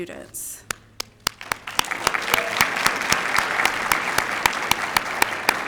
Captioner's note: applause